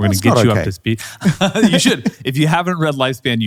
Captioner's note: laughing